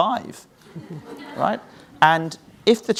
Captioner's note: audience laughs